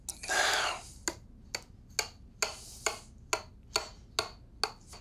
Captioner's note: knife chopping